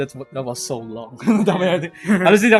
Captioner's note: laughs